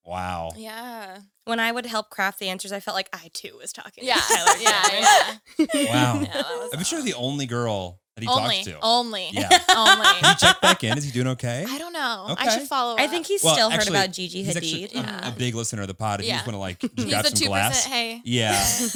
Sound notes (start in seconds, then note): 4.1 all laughing